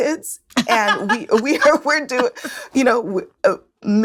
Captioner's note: laughs